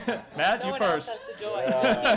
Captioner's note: laughter